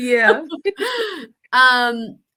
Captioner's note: laughter